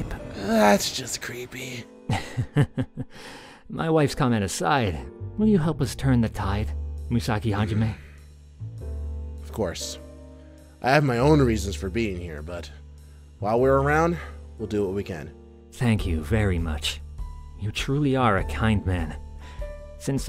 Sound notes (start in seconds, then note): 2.1 laughs